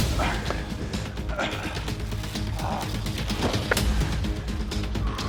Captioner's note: men grunting